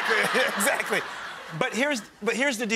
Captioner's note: crowd laughs